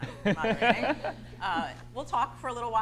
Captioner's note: laughs